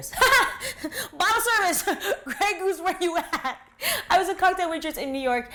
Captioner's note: laughs